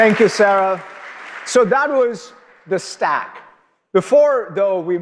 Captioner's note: applause